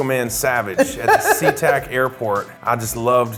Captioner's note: laughing